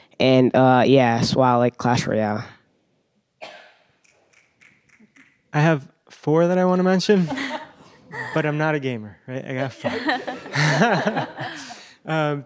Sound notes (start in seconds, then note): 7.2 laughs; 12.2 laughter